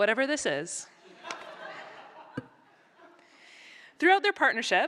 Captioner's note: laughter